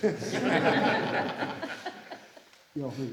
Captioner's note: laughter